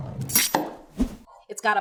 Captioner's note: knife chops